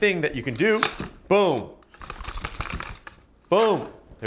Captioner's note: tripod clattering